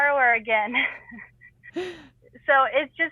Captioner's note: both laughing